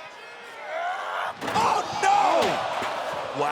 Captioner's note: crowd groaning